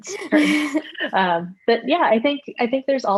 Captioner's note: laughter